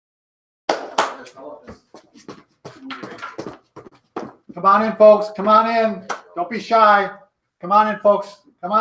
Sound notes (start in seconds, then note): 0.7 clapping